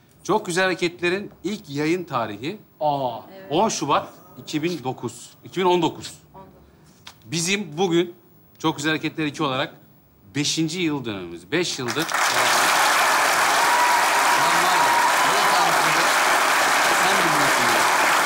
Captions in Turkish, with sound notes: Çok Güzel Hareketler'in ilk yayın tarihi 10 şubat 2009... 2019. Bizim bugün Çok Güzel Hareketler 2 olarak... ...5. yıl dönümümüz. 5 yıldır... (Alkış sesleri)